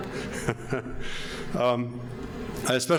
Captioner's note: laughs